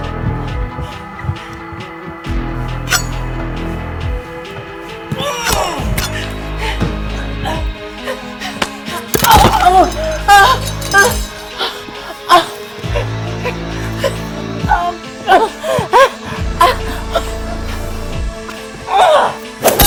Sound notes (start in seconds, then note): 5.1 Caroline moaning; 7.8 dramatic music; 10.4 Caroline moaning; 14.8 dramatic music; 18.8 Caroline moaning; 19.7 glass breaking